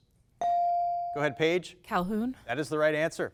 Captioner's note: bell dings